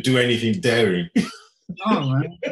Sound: laughing

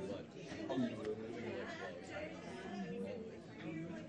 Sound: speaking faintly

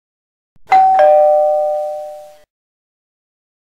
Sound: bell rings

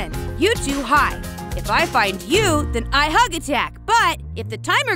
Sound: none

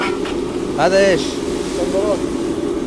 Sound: Arabic

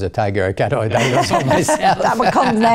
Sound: laughter

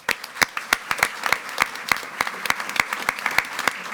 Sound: attendees clapping

